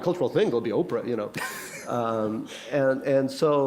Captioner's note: laughter